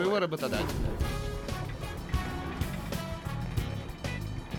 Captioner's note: crking